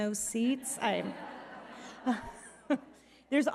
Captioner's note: audience laughing